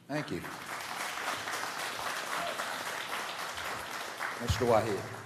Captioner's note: applause